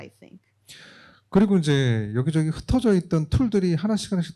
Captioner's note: speaking korean